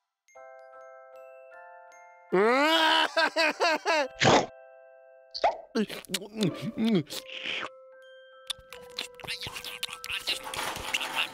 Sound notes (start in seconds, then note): 2.3 cries